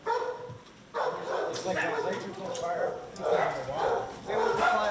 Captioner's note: overlapping chattering